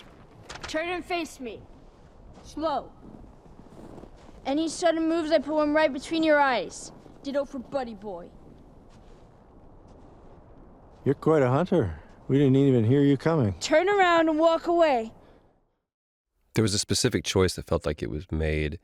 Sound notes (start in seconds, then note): none